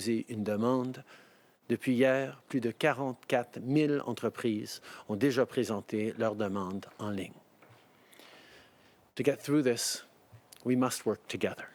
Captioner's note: speaking French